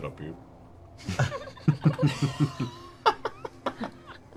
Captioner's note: laughter